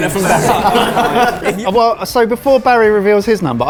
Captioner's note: laughing